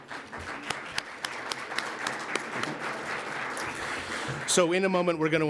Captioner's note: applause